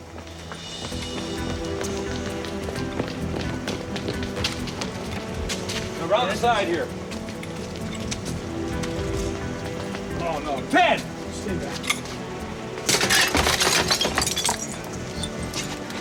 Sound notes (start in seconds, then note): 0.2 suspenseful music; 12.8 glass shattering